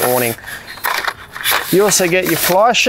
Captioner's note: poles clinging